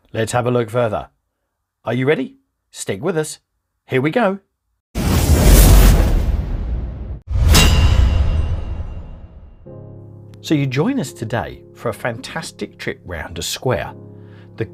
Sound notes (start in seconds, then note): 5.2 dramatic music; 5.2 logo clanging